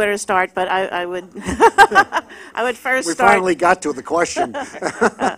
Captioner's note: laughs